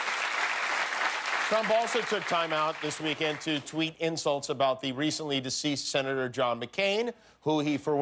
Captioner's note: cheers and applause